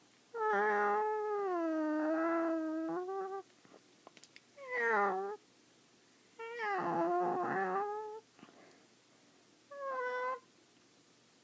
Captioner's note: cat noises